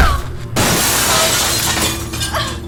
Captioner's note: mirror shatters